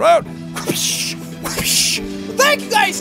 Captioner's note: high five sound effects